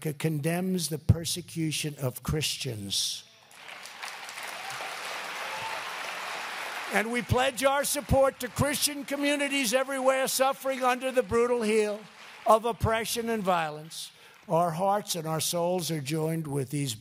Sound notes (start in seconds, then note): 3.2 applause